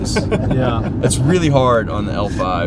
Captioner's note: man laughing